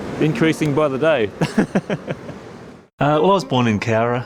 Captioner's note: laughs